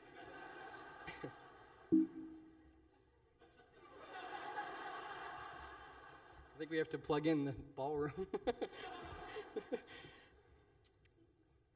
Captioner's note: laughter; hits mic accidentally; laughter